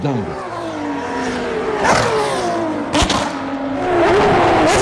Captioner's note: motors roaring